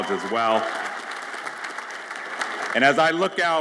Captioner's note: audience applauds